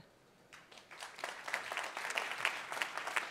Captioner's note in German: applaus